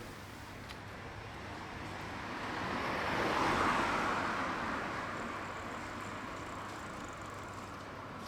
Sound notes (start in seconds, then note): 0.0 distant traffic